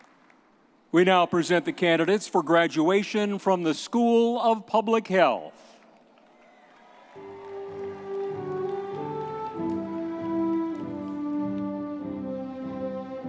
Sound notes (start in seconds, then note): 5.8 audience applauding